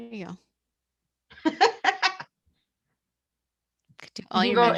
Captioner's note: laughs